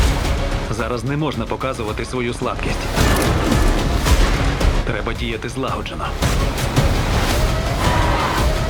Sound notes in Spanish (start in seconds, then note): 6.1 grito